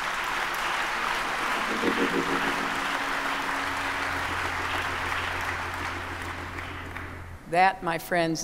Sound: applause

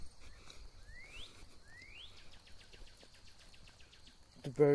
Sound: bird Chirps

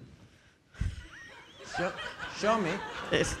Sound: audience laughing

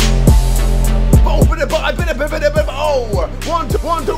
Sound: beatboxing

